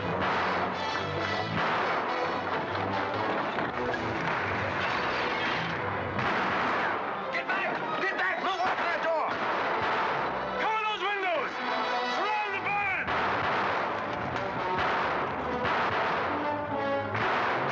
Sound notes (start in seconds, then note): 0.0 dramatic music; 0.0 gunfire; 4.8 glass shattering; 5.8 dramatic music; 6.0 gunfire; 8.6 gunfire; 9.4 dramatic music; 13.0 gunfire; 13.1 dramatic music